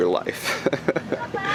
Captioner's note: laughing